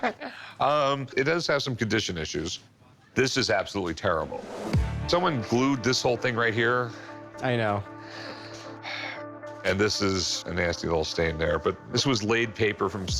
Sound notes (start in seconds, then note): 8.0 sighs